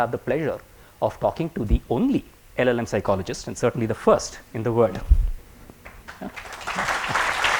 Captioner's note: applause